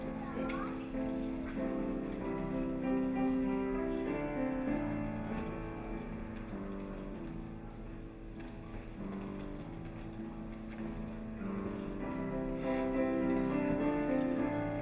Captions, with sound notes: (children mumbling in audience) - Just sit down.